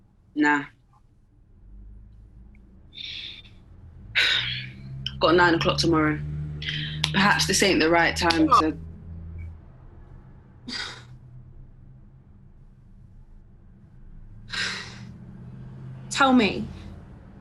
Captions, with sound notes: Nah. (SIGHS) Got a nine o'clock tomorrow. Perhaps this ain't the right time to... What? (MAYBE SIGHS) Tell me.